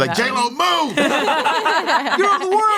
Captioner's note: everyone laughs